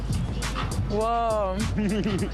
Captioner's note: laughs